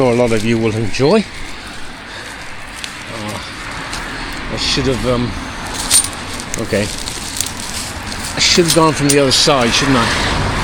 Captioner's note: road noise